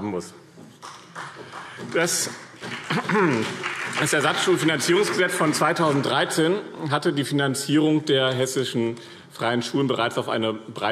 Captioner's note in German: Beifall BÜNDNIS 90/DIE GRÜNEN und vereinzelt CDU